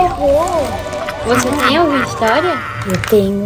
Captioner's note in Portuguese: som sobrenatural; risada malvada